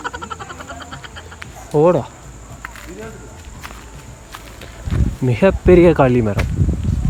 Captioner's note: footsteps